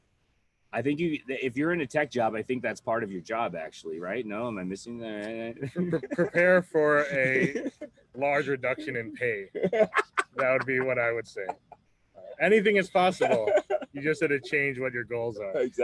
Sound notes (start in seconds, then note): 5.2 laughs; 9.7 laughs